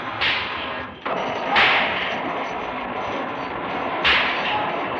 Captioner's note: wheel grinding